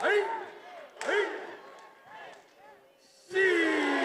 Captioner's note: attendees cheering